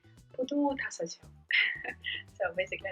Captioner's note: giggling